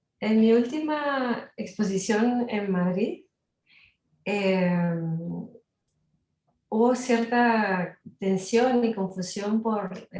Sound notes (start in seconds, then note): 0.8 speaking Spanish